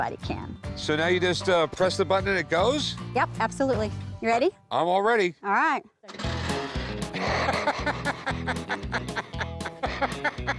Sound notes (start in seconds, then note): 6.1 laughing; 6.4 motor stammers